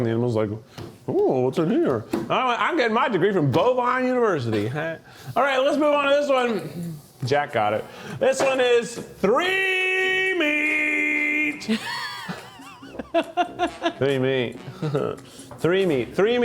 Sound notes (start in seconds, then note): 11.6 crew member laughs; 15.2 chuckles